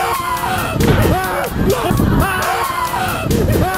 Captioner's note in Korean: 괴성